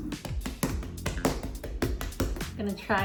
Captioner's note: pounding dough